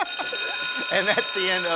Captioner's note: ringing